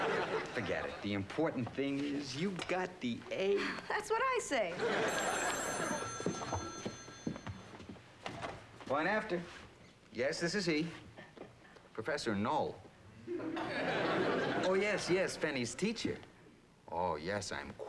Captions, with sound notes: THE IMPORTANT THING IS YOU GOT THE "A". THAT'S WHAT I SAY. [TELEPHONE RINGS] POINT AFTER. YES, THIS IS HE. PROFESSOR KNOLLE? OH, YES, PENNY'S TEACHER. YES, I'M QUITE PROUD.